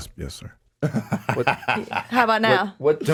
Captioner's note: Wisdom laughs